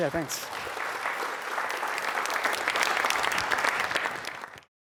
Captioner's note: applause